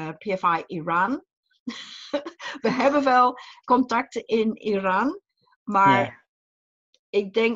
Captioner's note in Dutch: lacht